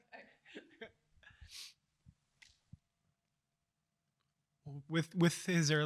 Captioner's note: chuckles